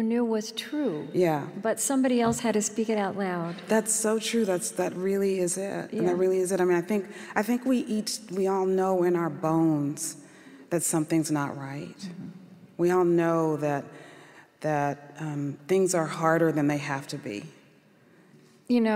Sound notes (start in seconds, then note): none